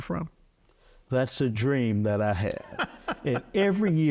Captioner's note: laughing